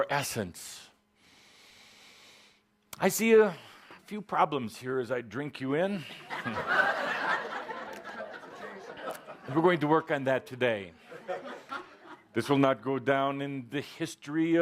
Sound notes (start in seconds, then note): 1.1 Kuthumi takes a deep breath; 6.0 laughter